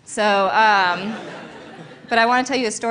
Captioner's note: laughter